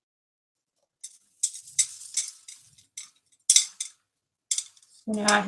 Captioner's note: clinking sounds